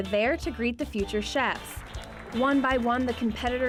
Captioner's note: clapping